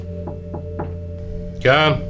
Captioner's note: person knocking